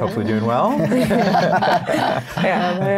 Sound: everyone laughs

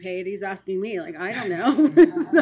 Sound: laughing

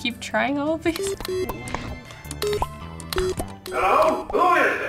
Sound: pager boops

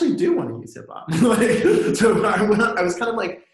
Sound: laughs

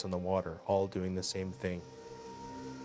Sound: voiceover

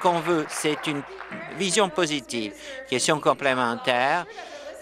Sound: applause

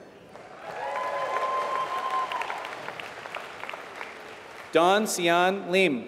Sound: applause

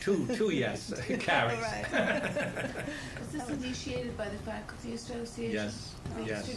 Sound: laughter

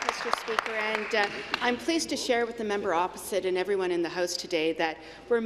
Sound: applause

